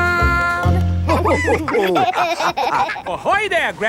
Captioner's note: all laughing